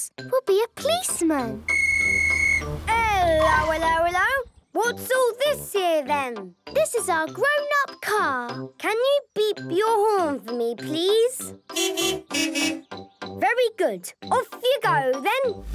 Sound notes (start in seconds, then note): 1.6 whistle blowing